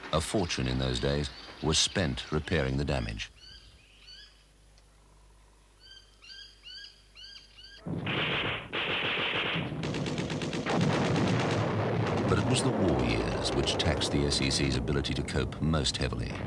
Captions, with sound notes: A fortune in those days were spent repairing the damage. (birds chirping) (gunfire) (explosion) But it was the war years which taxed the SEC's ability to cope most heavily.